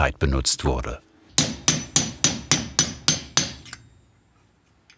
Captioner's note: repeated bright metallic banging